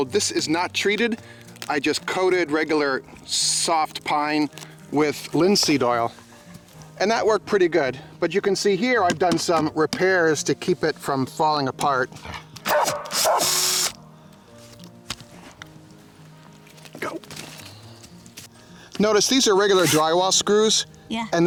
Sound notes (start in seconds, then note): 12.6 barking; 12.7 drilling